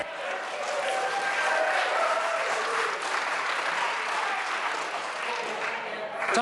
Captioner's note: members applaud